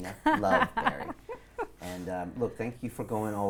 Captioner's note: laughs